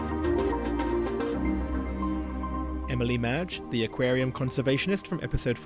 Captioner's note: voiceover